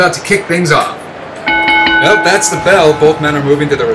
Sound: bell Rings

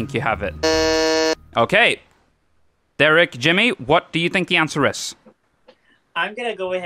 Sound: buzzes

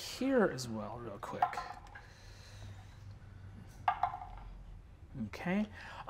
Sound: dice tapping table

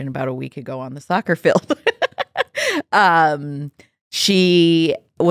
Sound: laughs

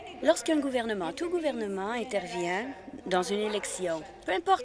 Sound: speaking in French

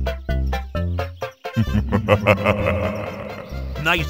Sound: laughter

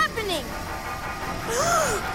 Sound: gasps

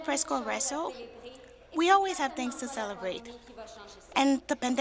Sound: speaking French

